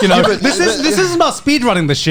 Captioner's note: laughs